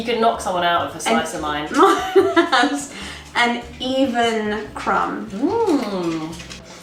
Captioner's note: laughs